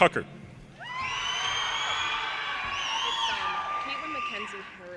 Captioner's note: audience cheers and applause